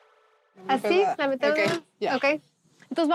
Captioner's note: conversing in Spanish